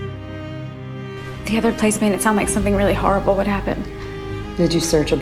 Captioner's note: voiceover